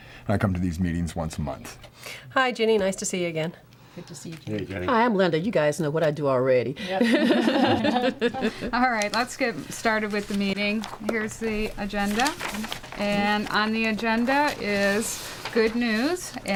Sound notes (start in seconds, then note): 6.9 laughs